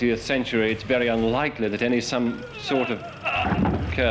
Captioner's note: groans